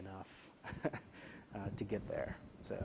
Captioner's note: laugh